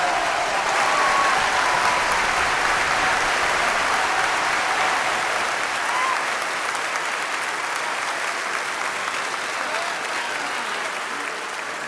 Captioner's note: applause